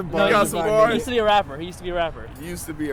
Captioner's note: voiceover